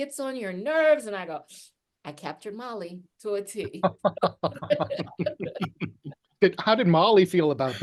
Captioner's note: laugh